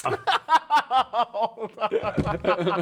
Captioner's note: laughing